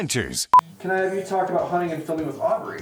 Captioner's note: network beep